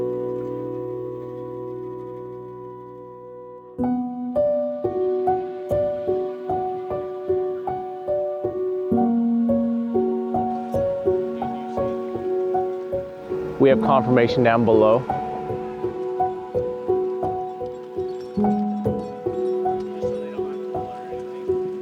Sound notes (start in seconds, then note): 11.3 muffled conversation; 18.9 chains clinking